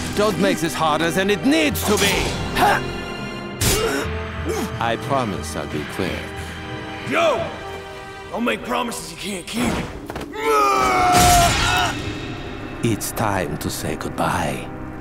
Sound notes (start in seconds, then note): 2.3 groans; 10.3 groaning